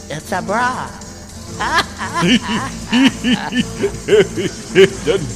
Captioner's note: laughter